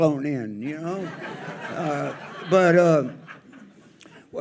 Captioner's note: audience laughs